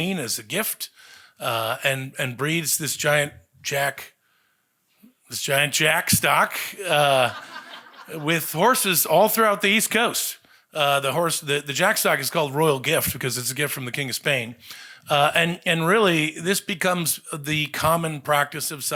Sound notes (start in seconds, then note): 6.9 audience laughing